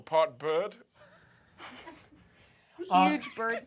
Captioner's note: laughter